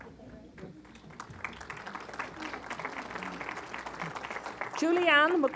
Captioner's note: applause